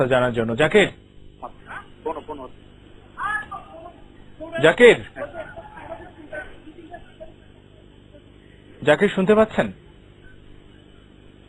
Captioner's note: shouting in the background